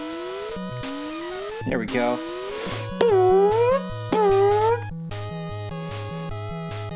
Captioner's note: imitates the loud noise the blocks make